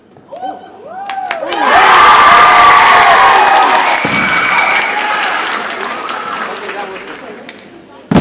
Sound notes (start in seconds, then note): 1.0 audience cheers and applauds